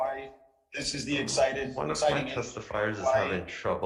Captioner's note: speaks faintly